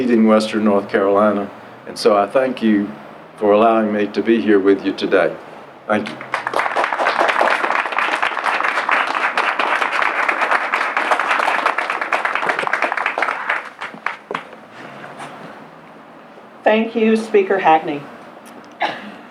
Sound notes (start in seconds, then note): 6.0 applause